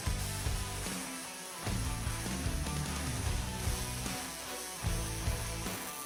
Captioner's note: intense rock music; tool whirs